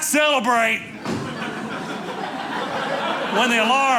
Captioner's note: audience laughing